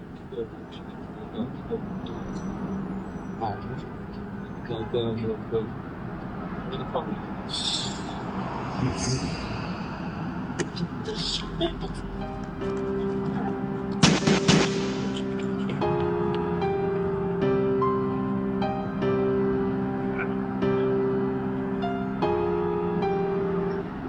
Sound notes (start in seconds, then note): 10.3 struggling; 14.0 gun shots; 15.1 piano; 19.6 distant police sirens